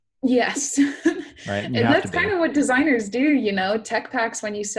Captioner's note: laughs